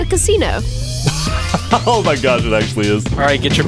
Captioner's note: laughing